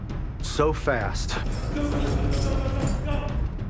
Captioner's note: panting and groaning